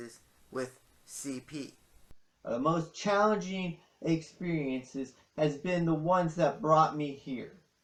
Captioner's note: as Gary Vaynerchuk